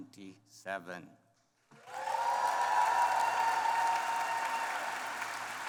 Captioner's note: applause